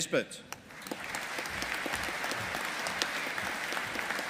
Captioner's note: audience applauding